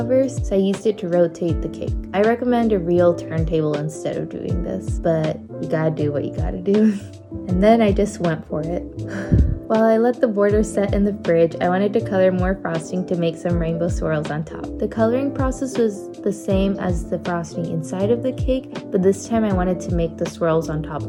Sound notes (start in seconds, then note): 8.9 phew